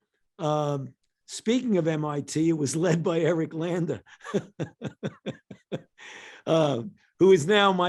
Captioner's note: chuckles